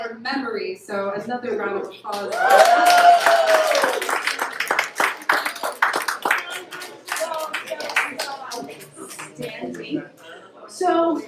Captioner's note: applause